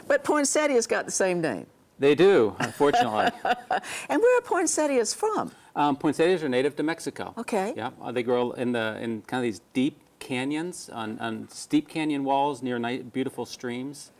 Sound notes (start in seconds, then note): 2.6 laughs